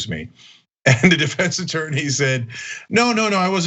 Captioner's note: laugh